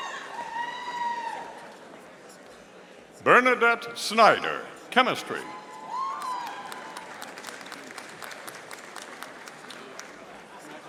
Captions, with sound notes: Bernadette Snyder, Chemistry. (audience applauding)